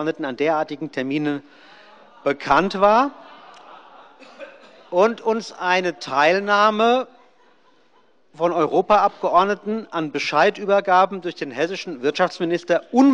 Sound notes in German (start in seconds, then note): 1.7 Lachen bei der SPD